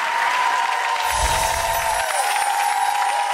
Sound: applause

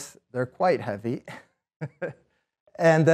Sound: laughs

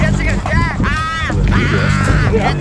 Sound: scream

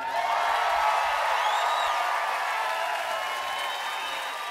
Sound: cheering and applause

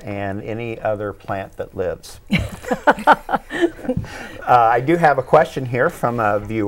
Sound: laughing

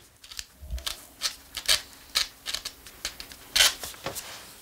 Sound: crackling

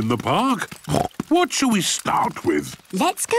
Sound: snorts

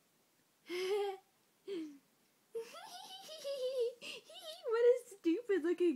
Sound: Ichigo giggling stupidly

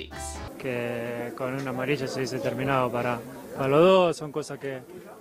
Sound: speaking in foreign language

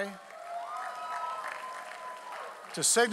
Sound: audience applauds

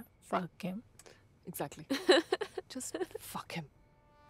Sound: laughs

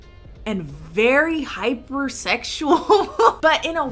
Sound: laughs

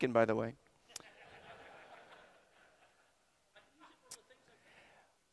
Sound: audience laughter

